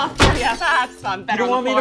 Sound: glass shatters

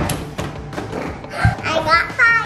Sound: gasp

